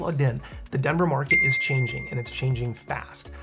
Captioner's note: bell dinging